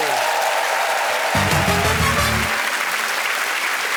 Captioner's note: cheers and applause